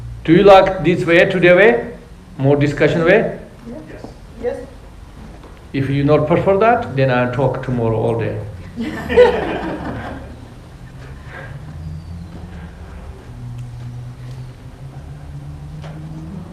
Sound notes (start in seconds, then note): 8.6 laughing